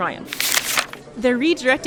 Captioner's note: sound of a rustling newspaper